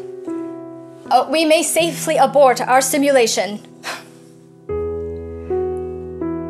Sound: sighs

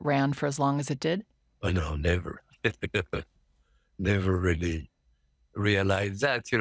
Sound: laughs

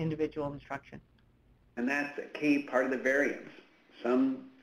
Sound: voiceover

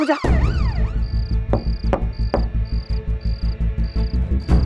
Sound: knocking

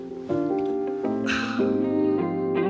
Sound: contented sigh

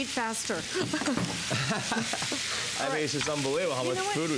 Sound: laughter

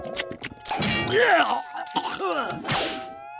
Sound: spits and gags

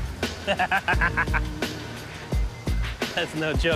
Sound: laughing

